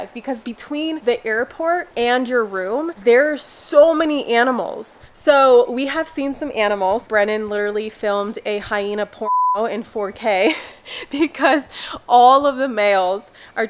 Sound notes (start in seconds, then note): 9.2 beep